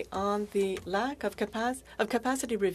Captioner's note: speaking French